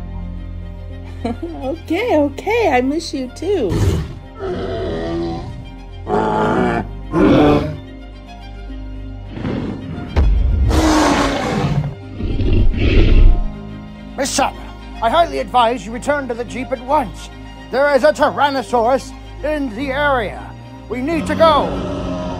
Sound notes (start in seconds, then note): 4.0 triceratops sounds; 9.3 stomping and growling sound of T-Rex